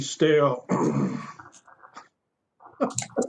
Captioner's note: laughter